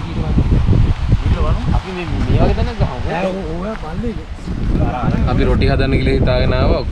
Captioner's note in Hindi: चैटिंग